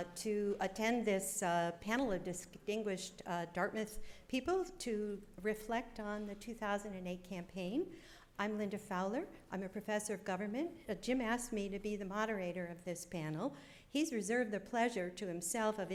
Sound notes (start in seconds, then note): none